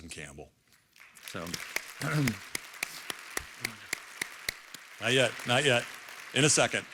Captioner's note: clapping